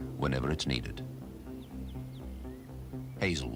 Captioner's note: birds chirping